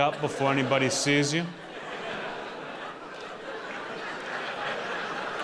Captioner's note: audience laughing